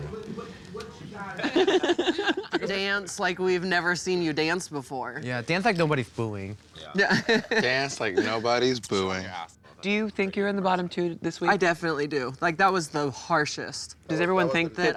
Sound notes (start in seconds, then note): 1.0 laughing